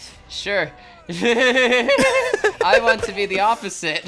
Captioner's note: both Laughing